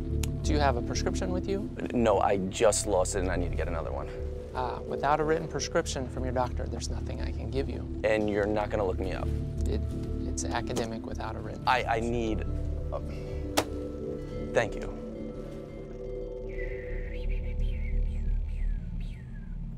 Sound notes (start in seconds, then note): 13.5 hand thwacking on counter; 16.5 Patrick whistling